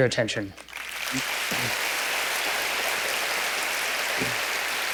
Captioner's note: applause